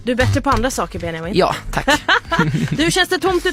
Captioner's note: laughing